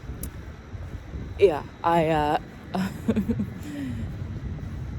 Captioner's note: chuckles